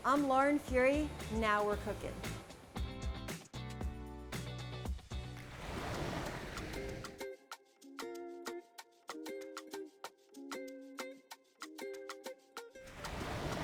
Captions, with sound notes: I'm Lauren Furey, and "Now we're Cookin'." (upbeat music) (waves splash) (upbeat music)